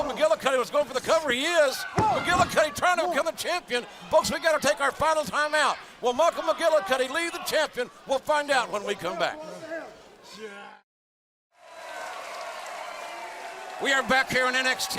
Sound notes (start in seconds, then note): 8.7 crowd chatter; 11.5 crowd cheering